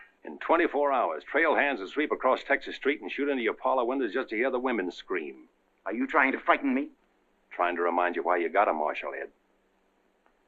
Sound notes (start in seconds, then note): none